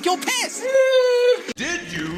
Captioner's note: perverted noises